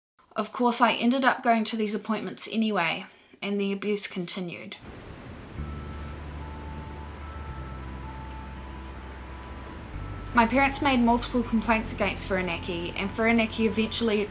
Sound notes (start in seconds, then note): 4.8 sounds of waves crashing; 5.4 synth music plays